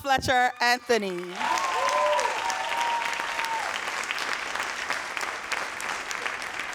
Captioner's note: audience cheering and applauding